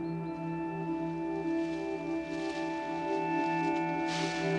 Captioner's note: leaves rustling